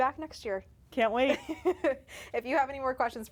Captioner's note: laughs